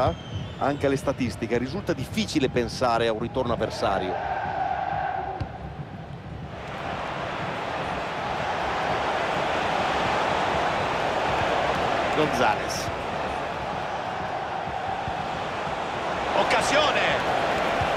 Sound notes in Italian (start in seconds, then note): 3.4 Applauso